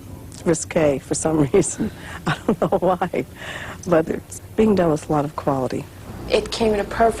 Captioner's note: laughing